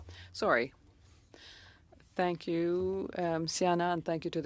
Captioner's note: speaking French